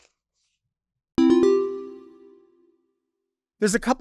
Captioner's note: bell chiming